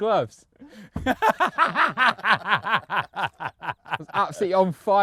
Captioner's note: cackles